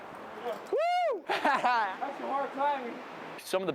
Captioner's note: laughs